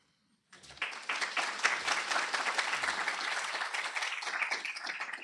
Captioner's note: applause